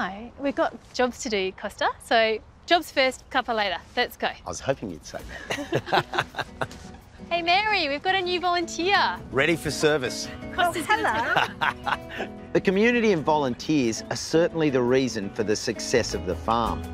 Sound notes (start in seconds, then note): 5.3 both laugh; 10.8 laughs